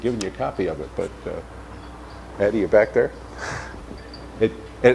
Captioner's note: laughs